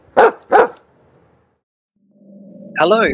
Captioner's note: sound of dog barking